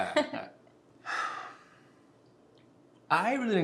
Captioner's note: chuckles; father sighs